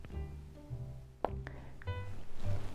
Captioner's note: mouth pop